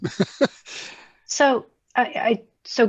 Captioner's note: laughs